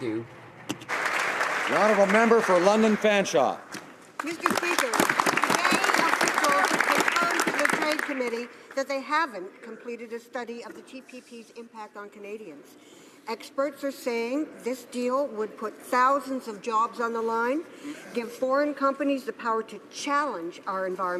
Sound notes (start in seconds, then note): 4.1 some Applause